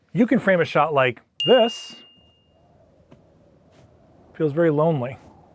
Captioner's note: ding; air whooshing